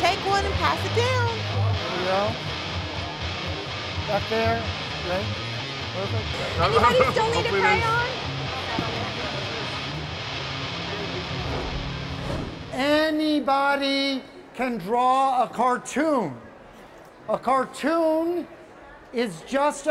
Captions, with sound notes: - There you go. Back there, great, perfect. - Anybody still need a crayon? (audience chattering) - Anybody can draw a cartoon. A cartoon is just a bunch of shapes,